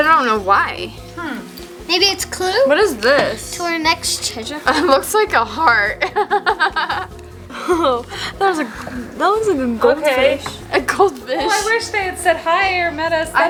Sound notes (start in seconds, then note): 5.9 laughs